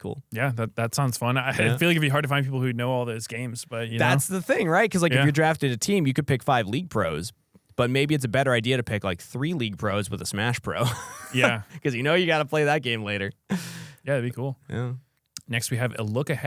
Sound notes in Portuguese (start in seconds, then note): 10.8 risos